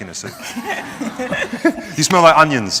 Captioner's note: audience laughter